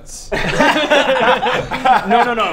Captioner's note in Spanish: risas